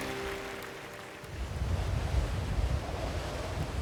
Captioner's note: wind blowing, waves crashing